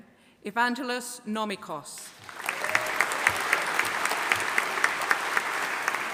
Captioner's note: audience applauding